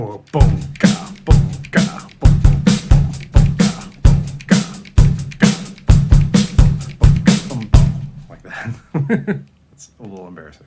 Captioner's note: terrible beatboxing